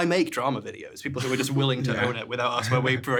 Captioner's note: chuckles; chuckling